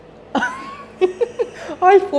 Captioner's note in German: lacht